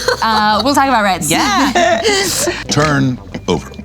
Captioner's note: laughing